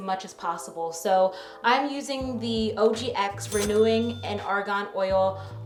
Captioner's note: bell dinging